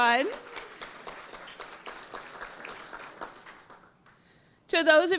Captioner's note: audience applauding